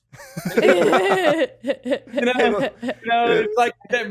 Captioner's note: laughs